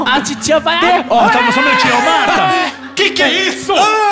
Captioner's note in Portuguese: choro